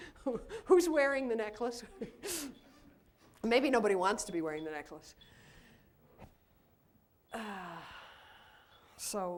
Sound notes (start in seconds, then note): 1.8 laughs